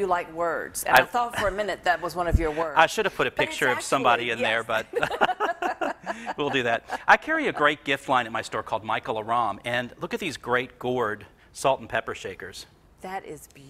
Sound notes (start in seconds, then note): 2.9 laughs; 4.6 laughter